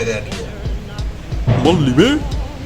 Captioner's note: thunder